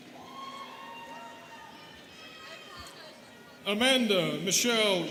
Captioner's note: students cheering